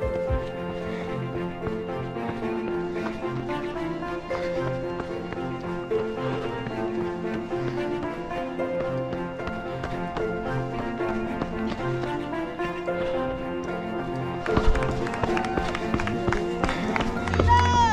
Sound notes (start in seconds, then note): 1.5 breathing heavily; 10.7 footsteps pounding; 14.1 crowd cheering and applauding